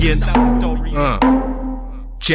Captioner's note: Uhh!